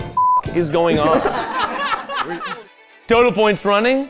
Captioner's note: all laughing